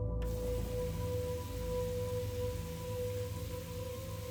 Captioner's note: water running